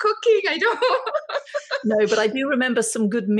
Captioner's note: laughing